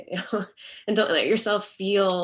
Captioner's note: chuckles